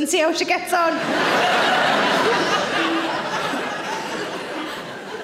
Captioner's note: audience laughing